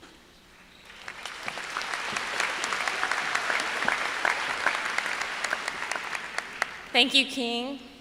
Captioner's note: applause